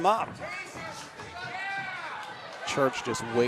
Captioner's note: audience cheering